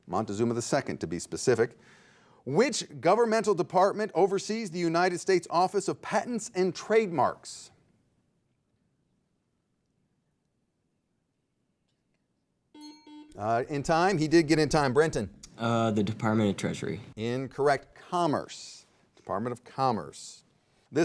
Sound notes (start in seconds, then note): 12.7 timer pinging